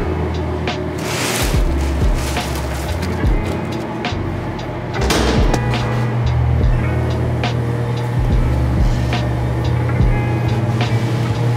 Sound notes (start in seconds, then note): 0.2 gentle R&B music; 0.7 bagels scraping; 4.9 metal clanking; 6.0 background machinery humming; 6.0 gentle music continues